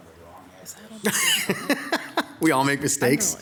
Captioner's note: laughs